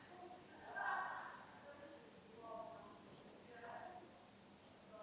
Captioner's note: pencil scratches